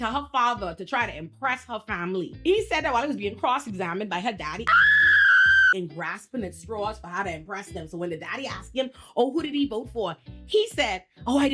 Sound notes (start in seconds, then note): 4.6 screaming